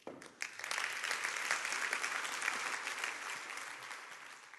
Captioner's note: applause